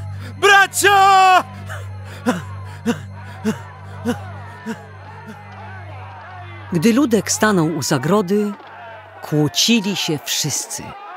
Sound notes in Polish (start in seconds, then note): 4.1 odgłosy awantury